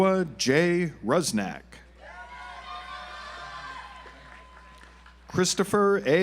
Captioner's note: audience applauds